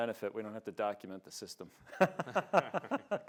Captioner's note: laughs